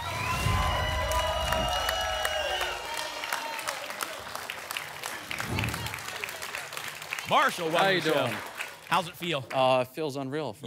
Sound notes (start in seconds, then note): 0.1 applause and cheering; 0.1 whoosh; 2.5 applause and cheering; 5.3 whoosh; 6.2 applause and cheering